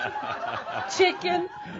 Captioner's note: laughter